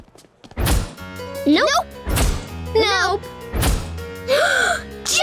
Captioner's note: gasping